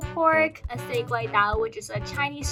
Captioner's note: speaking in foreign language